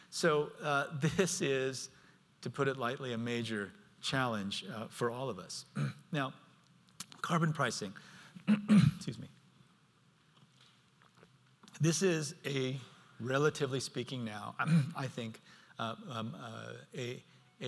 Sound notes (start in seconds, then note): 8.4 clears throat